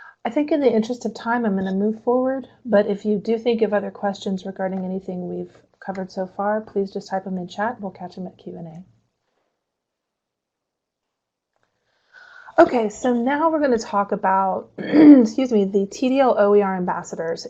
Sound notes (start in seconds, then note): 14.8 clears throat